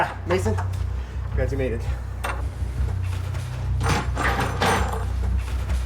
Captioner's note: door closing